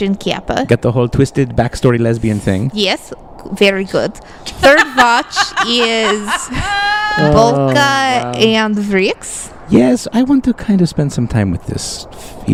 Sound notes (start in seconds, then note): 4.5 laughs